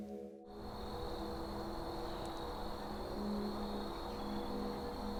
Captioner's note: gentle music; insects chirping